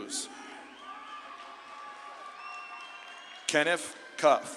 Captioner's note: audience claps and cheers